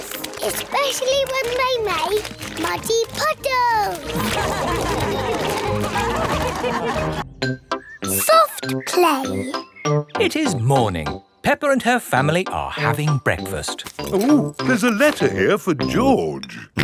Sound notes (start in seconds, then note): 4.1 all laugh